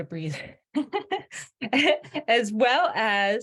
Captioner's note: laughing